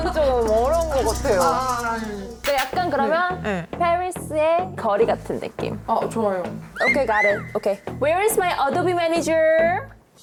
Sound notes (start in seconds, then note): 2.4 work must be done sound effect